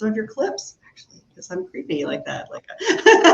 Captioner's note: laughs